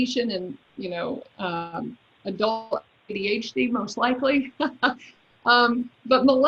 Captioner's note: laughs